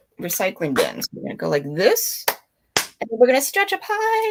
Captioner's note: clapping